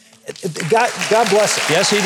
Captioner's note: audience applauding